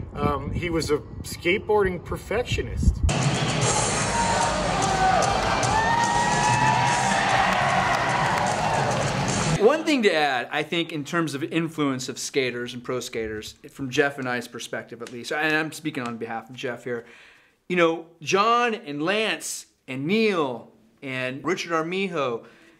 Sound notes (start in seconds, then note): 3.1 upbeat music; 3.1 crowd cheering